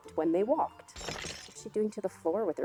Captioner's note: tiles cracking